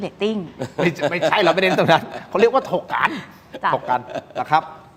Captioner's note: laughter